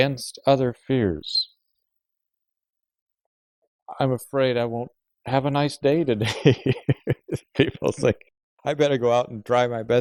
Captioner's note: laughs